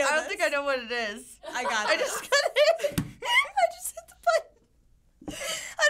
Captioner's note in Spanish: Risas